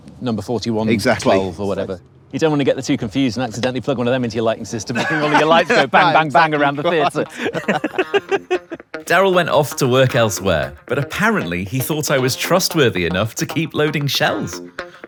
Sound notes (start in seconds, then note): 7.2 both chuckling